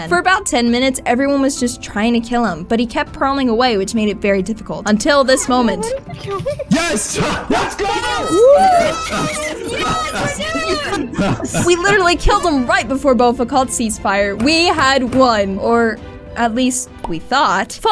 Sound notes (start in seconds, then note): 5.2 laughter; 6.6 war noises; 10.3 cheering